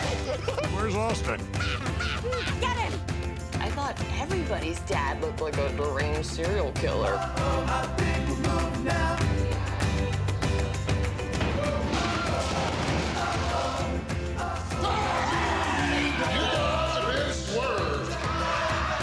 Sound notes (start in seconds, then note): 11.1 pillars thud; 14.6 fans scream; 14.8 Big Show screams